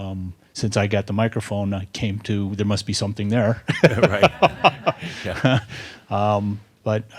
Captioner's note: he laughs